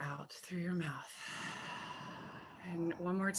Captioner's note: exhales